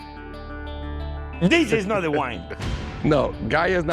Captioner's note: laughing